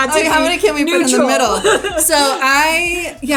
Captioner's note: laughs